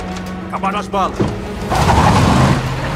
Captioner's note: in English